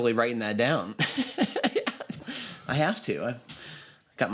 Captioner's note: laughs